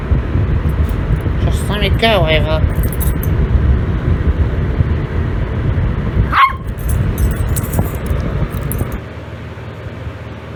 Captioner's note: Ella barks